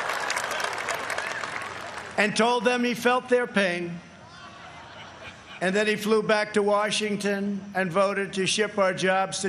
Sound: audience reacts

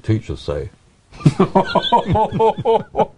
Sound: laughing

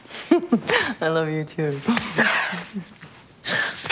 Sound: laughs

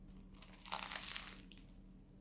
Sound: crunch

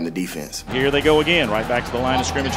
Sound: voiceover

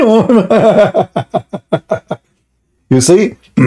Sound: Ketawa

